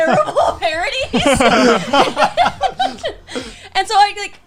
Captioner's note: laughing